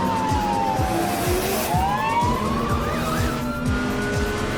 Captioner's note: car revs loudly; police sirens; electronic dance music